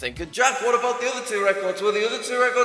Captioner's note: echoing